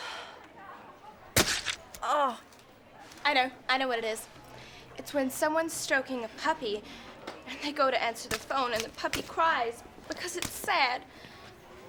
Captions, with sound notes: (groans) - I know, I know what it is. It's when someone's stroking a puppy and they go to answer the phone and the puppy cries because it's sad.